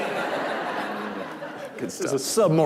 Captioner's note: laughing